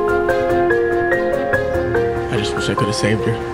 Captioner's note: birds chirping